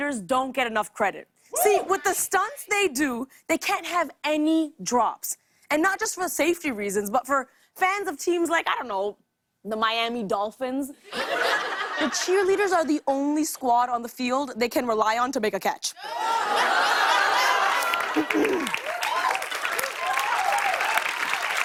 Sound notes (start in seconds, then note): 11.0 laughter; 16.0 laughter, groaning; 17.8 cheers and applause